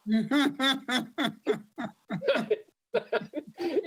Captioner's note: laugh